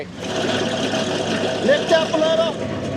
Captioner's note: skid steer rumbling